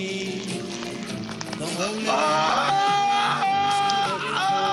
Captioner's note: screaming